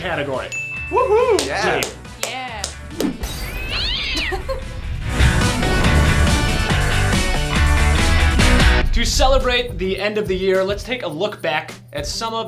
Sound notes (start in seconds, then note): 0.5 ding; 3.4 cat screech; 4.4 up beat music